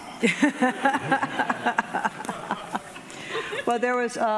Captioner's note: laughing